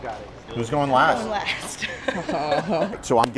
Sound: laughs nervously

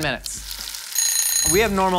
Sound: timer ringing

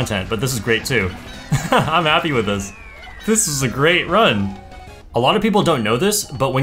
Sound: laughs

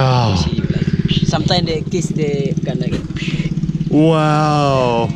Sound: blows

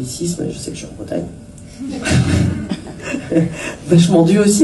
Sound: laughs

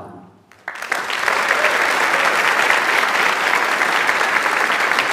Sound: audience applauds

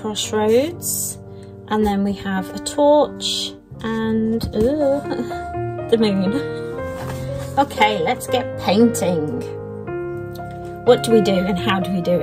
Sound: laughs

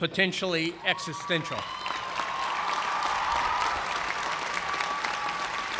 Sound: cheers and applause

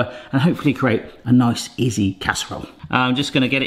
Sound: none

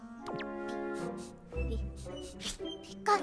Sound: sniffs

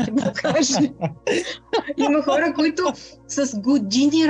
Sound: laughter

